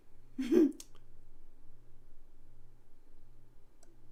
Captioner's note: laughing